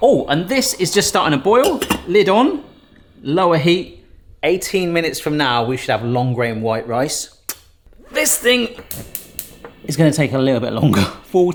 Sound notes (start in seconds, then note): 7.6 lips smack